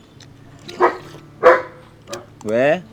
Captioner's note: dogs barking